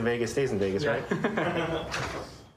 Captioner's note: laughter